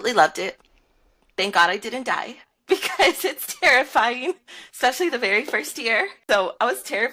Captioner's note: laughter